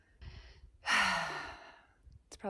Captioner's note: sigh